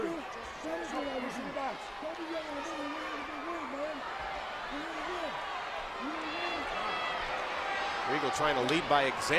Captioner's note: crowd chatter